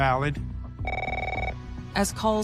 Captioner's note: phones ringing